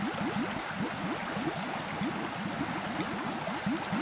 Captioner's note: water streaming